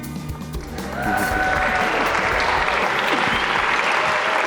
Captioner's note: audience applauds